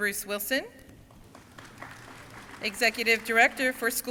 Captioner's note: crowd applauding